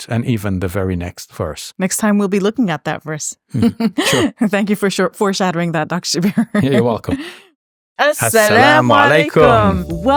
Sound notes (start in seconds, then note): 3.5 laughing; 6.3 chuckles